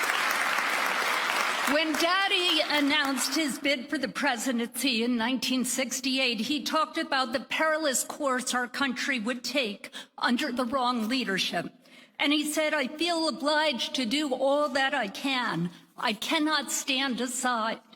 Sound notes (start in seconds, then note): 4.0 applause